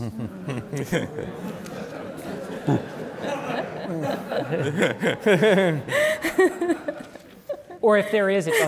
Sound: laughter

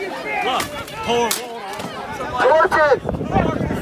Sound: crowd yelling

